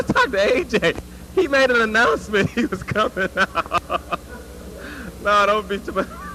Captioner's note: laugh